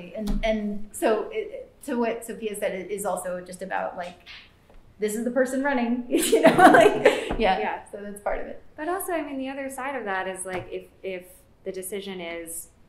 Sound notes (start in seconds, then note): 6.1 laughter